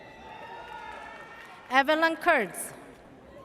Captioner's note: audience cheers